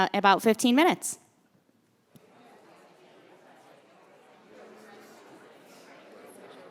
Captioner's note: background Conversation